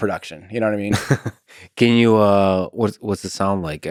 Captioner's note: Lex laughs